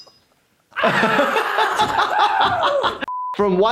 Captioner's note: Steve-O screaming; laughing